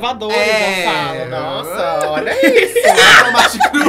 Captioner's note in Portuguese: risos